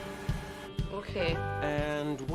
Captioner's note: tanduk berbip